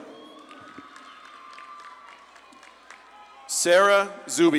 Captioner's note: audience claps and cheers